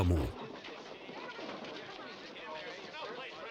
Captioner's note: crowd muttering